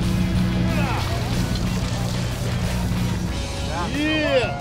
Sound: men grunting

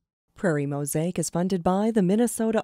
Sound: voiceover

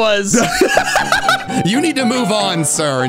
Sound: laughing

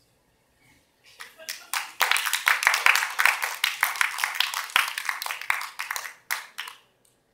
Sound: applause

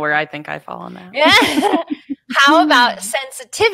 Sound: both laughing

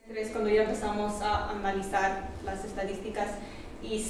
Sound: professor speaking Spanish

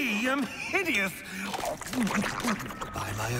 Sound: gobbling

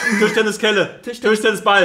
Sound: laughs

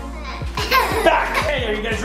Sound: laughing

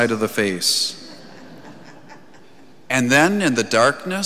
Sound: congregation chuckles

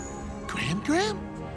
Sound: none

